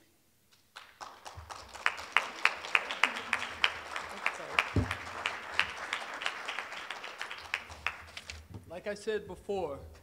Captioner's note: applause